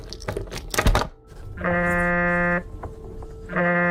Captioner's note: phone ring